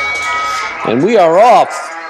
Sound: opening bell

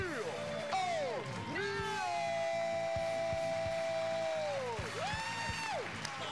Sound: cheers and applause

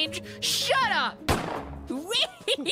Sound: gunshot

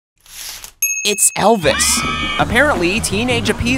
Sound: ding; teenage girls screaming

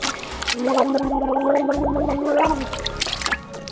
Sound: water gurgling

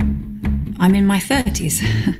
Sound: laugh

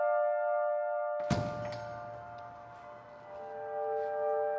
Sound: door banging

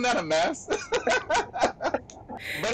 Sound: laughs

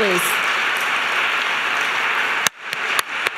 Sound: applause

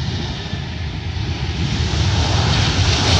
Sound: plane roaring

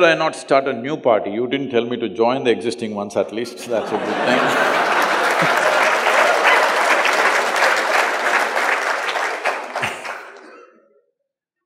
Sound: laughter/Applause

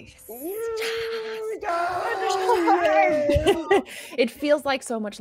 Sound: everybody cheering calmly

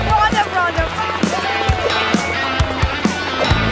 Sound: helicopter hovering

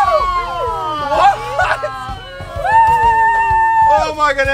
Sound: crowd screams and laughs

